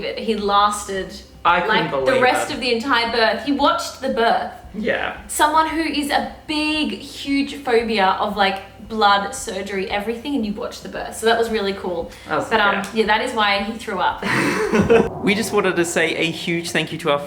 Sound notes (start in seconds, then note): 14.2 laughing